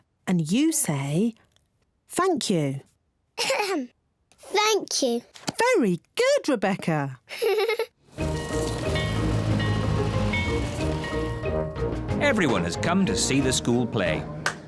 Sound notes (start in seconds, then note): 3.4 clears throat; 7.2 giggles; 8.2 bell tolls